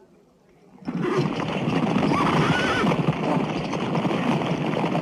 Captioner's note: horses whinnying